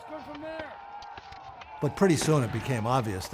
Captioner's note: shouting intensifies